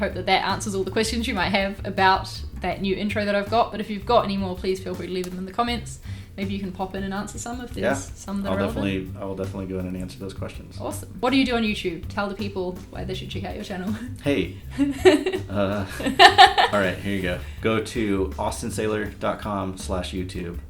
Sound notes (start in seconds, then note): 15.8 laughs